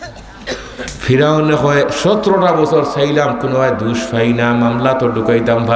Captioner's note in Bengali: কাশি